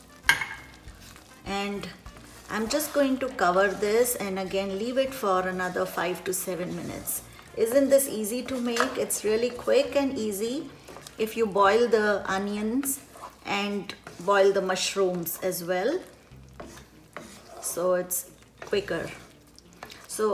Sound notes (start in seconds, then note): 0.2 dish clinking; 17.1 scraping